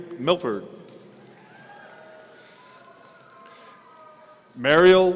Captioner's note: audience cheering